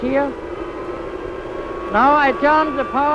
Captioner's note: propeller droning